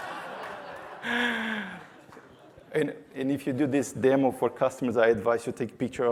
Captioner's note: laughter